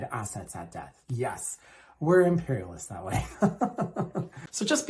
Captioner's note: laughs